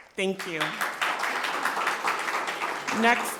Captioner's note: people clapping